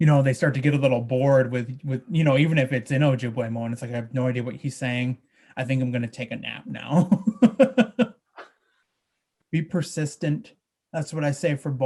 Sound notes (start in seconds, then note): 6.8 he laughs